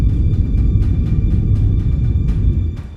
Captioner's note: low hum